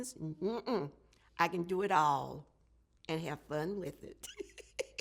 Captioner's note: laughs